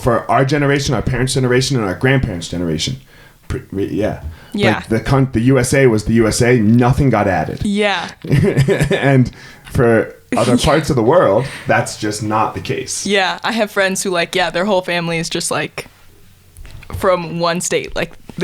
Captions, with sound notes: For our generation, our parents' generation, our grandparents' generation, yeah. The USA was the USA; nothing got added. (chuckles) And for other parts of the world, that's just not the case. - Yeah, I have friends who, yeah, their whole family is just from one state.